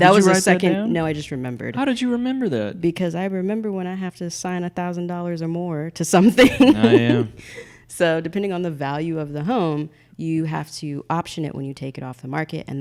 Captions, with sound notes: That was a second-- - Oh did you write that down? - No I just remembered. - How did you remember that? - Because I remember when I have to sign a thousand dollars or more to something. (laughing) - Oh yeah. - So depending on the value of the home, you have to option it when you take it off the market,